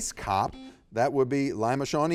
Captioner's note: buzzer beeps